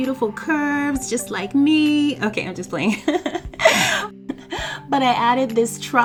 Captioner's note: laughs